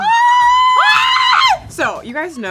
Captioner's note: both screams